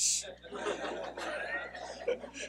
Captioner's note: laughing